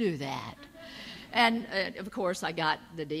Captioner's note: audience laughs